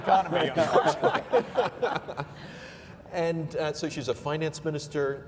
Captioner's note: laughing